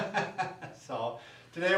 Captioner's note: laughs